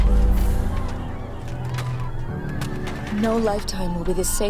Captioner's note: settlers clamoring